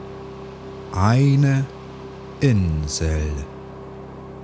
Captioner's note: german